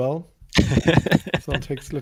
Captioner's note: laughing